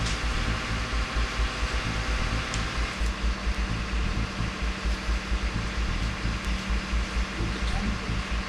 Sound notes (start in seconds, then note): 0.0 large engine roaring